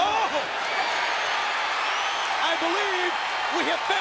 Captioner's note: audience cheers